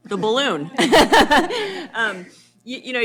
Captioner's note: laughter